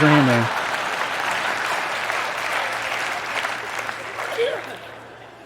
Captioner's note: applause